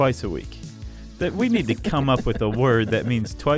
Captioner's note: laughs